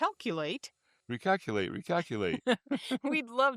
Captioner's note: laughter